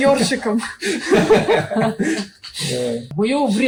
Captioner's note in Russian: Смех продолжается